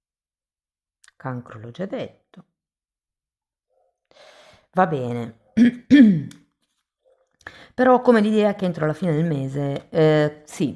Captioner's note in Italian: schiarire la voce